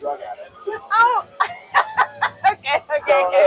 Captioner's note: laughs